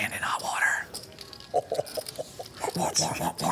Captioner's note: laughing